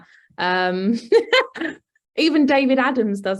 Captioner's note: laughs